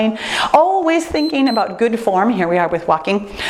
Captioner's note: timer beeps